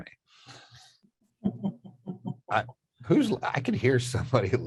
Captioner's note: chuckling